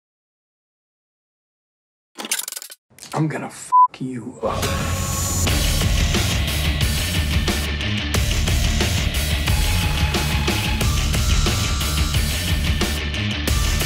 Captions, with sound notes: (gun clicks) - I'm gonna (beep) you up. (rock music)